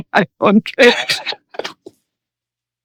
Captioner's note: laughing